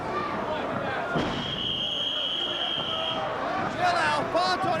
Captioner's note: whistling